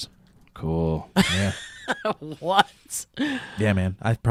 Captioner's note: laughs